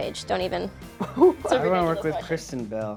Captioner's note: laughs